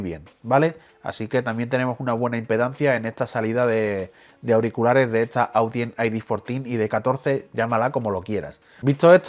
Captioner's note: spanish